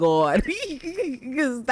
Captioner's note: laughs